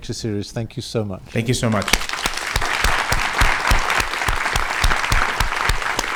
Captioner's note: audience applauds